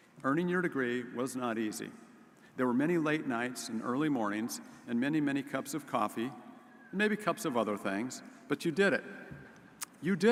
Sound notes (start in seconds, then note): none